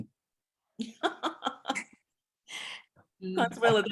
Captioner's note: chuckling